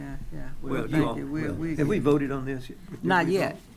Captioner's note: speaking quietly